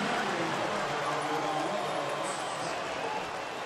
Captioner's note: pa announcement